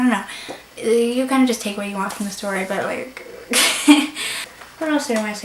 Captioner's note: laughs